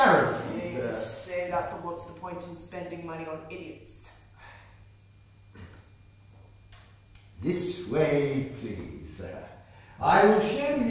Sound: sighs

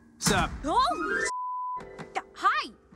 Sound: beep

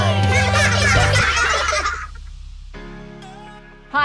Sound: laughing

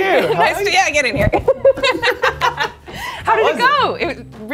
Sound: both laughing

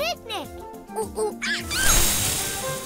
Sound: monkey sounds

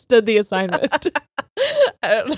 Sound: both laughing

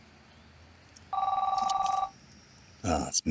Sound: phone rings

